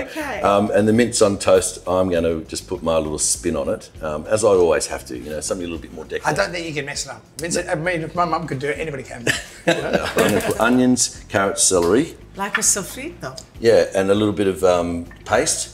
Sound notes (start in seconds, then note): 9.2 group laughing